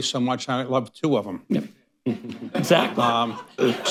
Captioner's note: laughter